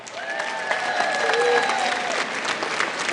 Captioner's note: applause